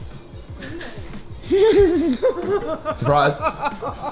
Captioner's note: laughing